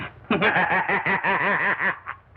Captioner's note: more Manacle Laughter